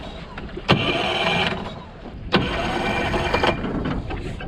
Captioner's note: motor turning